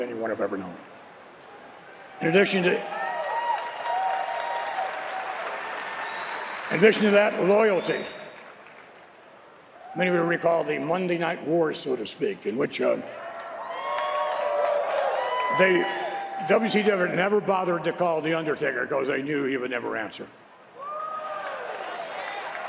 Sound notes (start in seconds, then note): 6.8 applause